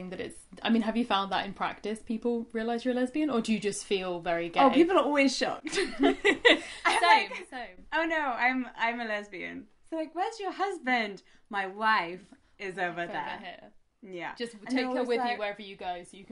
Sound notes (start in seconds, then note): 5.6 laughter